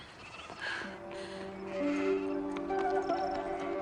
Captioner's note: hooves clopping